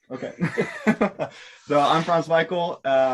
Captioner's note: laughs